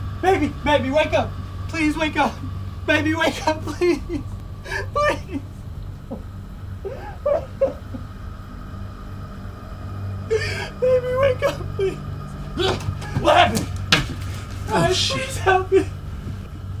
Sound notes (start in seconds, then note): 4.6 crying; 6.7 heavy crying; 10.2 heavy breathe; 10.3 crying and shouting; 12.5 grunt; 12.6 door opens